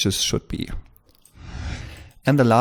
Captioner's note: whoosh